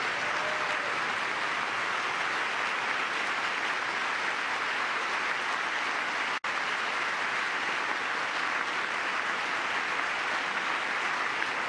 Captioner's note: applause